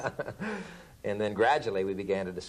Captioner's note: laughter